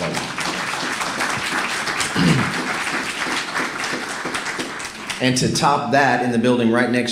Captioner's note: applause